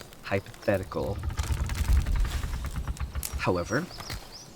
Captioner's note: trees creak, leaves rustle